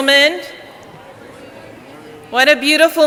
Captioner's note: people chattering